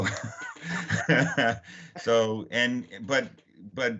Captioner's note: laughing